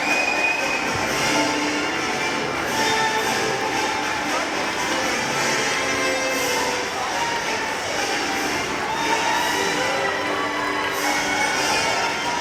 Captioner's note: applause